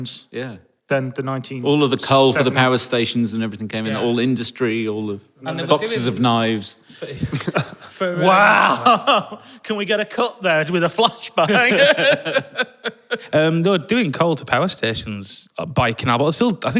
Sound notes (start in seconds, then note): 7.0 group snickering